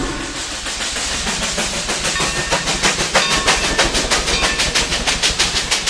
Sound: steam train chugging

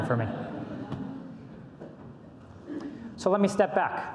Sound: audience laughs

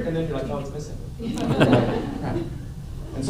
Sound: laughter

